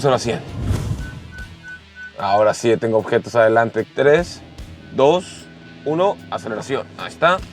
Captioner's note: alarm beeping